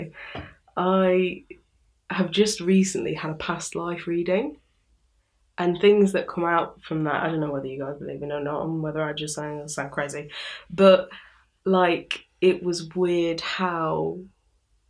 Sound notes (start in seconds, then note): none